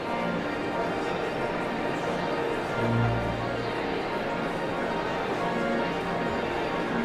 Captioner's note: audience chatter continues; pipe organ music continues